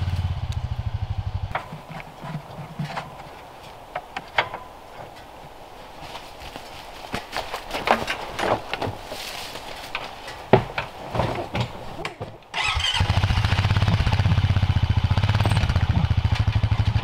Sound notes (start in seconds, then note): 7.5 rustling; 13.0 engine humming